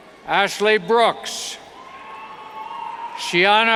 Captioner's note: cheers